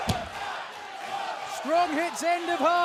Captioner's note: fans chanting